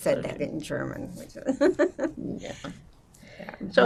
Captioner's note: laughing